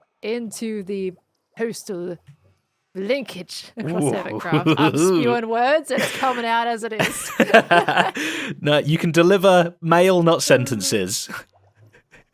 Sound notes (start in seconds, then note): 7.0 laughs